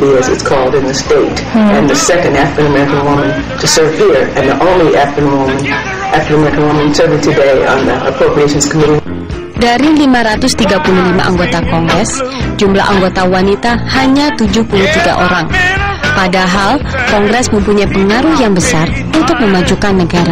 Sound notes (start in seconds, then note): 14.0 non-english speech